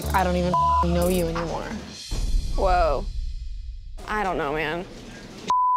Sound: beep

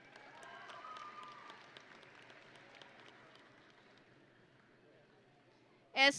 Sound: audience and graduates cheering

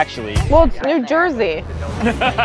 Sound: laughter

